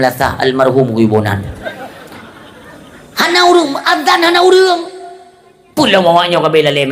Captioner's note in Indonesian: tertawa